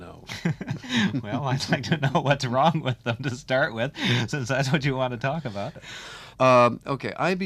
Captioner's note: laughing